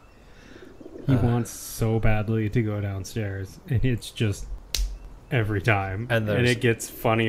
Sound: smack

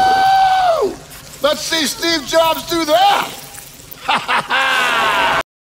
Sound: laughs

